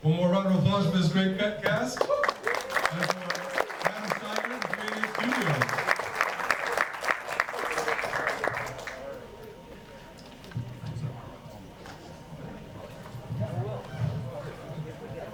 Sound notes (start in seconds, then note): 1.6 audience cheers and claps; 6.2 audience clapping continues; 9.8 people chatter simultaneously